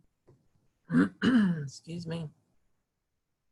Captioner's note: clearing throat